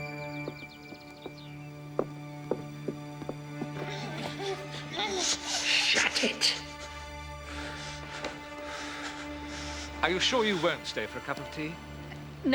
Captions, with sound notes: (grunting) - Shut it. - Are you sure you won't stay for a cup of tea?